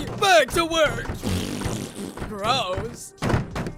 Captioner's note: blows raspberry